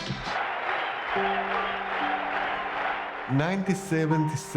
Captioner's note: crowd cheering